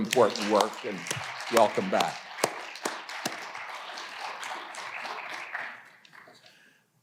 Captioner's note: audience applauding